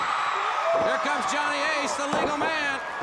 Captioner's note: crowd cheering